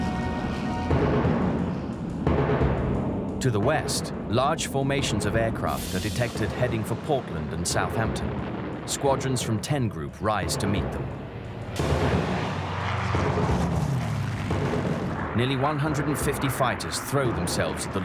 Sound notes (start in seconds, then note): 0.0 dramatic music; 0.0 plane engines roaring; 12.3 dramatic music; 12.3 plane engines roaring